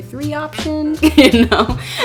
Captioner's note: laugh